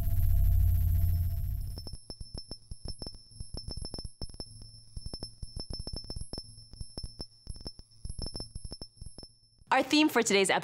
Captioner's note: tinkling sound